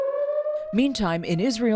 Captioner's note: sirens blaring